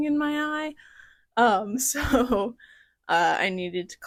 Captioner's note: laughter